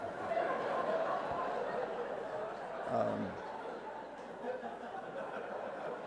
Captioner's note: laughter